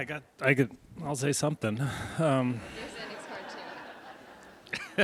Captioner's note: audience laughs; laughs